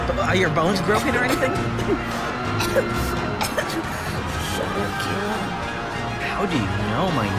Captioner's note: coughing